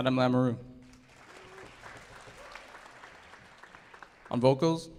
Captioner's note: audience applauding